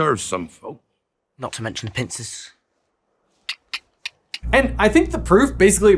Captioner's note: clicks tongue